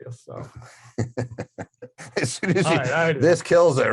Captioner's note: laughing